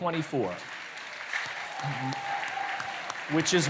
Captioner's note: cheering, applause